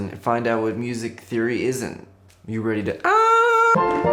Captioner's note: screams